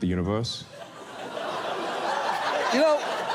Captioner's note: audience laughs